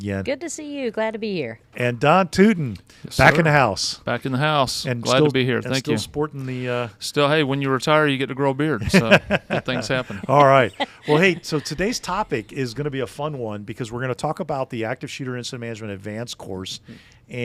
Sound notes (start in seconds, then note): 8.8 laughing